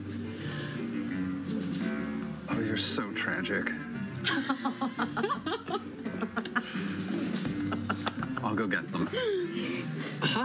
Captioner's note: laughter